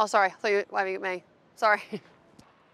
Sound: laughs

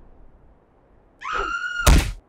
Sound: screams

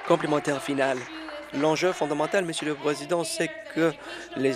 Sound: applause

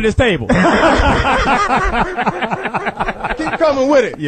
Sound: all laugh

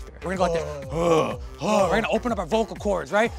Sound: grunting

